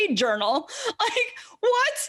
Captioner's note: laughs